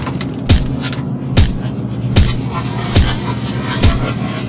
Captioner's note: hitting sounds